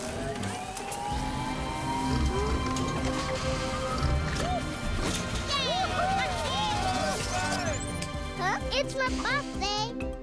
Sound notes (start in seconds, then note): 0.2 whirring; 5.1 residents cheering; 7.6 clicking